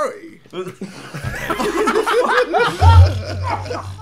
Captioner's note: laughing